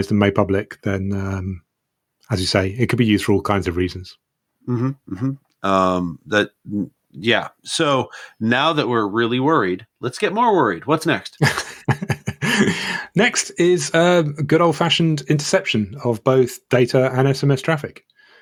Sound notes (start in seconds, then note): 11.4 laughs